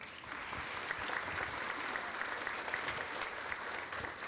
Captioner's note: audience applauding